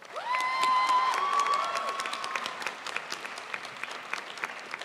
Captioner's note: crowd applauds